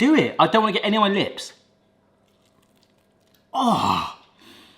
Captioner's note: munching